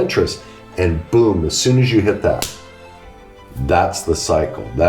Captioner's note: slaps hands